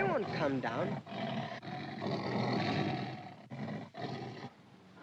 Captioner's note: tiger snarls